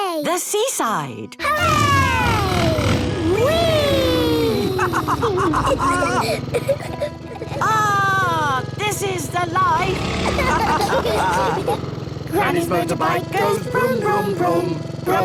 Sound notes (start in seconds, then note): 5.2 laughs